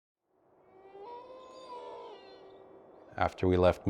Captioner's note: wolf howling